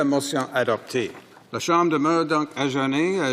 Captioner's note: speaking French